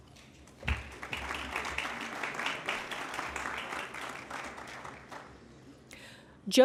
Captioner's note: applause